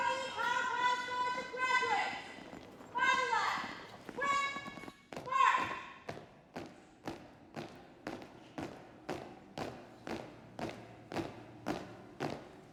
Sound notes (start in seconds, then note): 6.0 footsteps thump in rhythm; 11.8 feet stamp loudly in unison